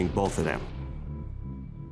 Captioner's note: gun shots